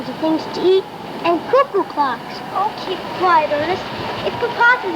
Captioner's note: wind howling